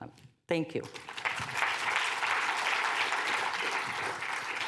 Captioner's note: applause